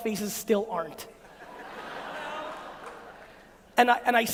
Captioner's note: audience Laughing